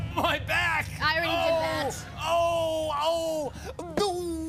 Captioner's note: groaning